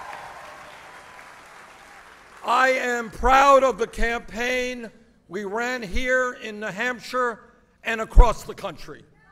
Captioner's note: applause